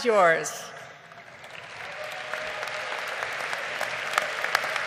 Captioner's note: crowd applauding